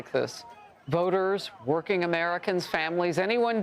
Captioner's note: shouting